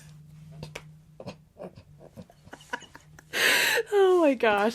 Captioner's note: laughs